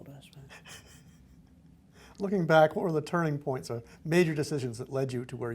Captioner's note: laughs